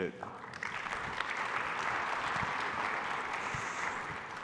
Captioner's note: applause